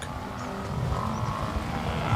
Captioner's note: animals calling; mooing